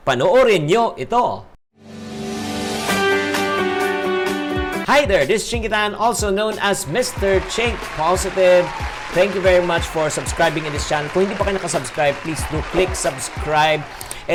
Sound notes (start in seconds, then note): 6.9 applause; 7.5 cheers; 9.1 applause; 9.3 cheers; 9.9 applause; 10.2 cheers; 11.1 applause; 11.4 cheers; 12.2 applause; 12.6 cheers